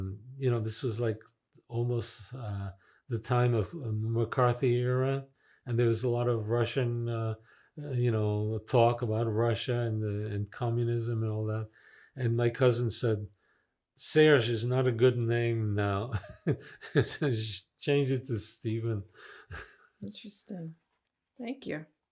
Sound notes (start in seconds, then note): 15.3 laughing